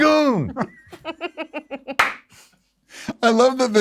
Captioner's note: giggling